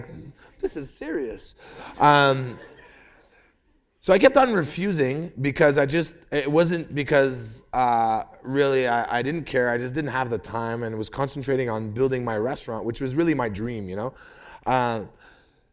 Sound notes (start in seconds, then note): 1.7 laughter